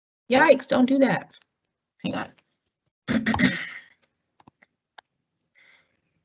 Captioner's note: cough